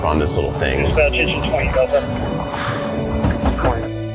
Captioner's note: radio chatter